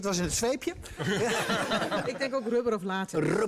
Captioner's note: laughter